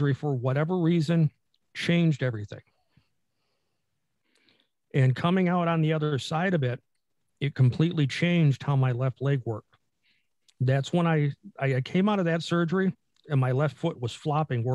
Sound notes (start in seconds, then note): none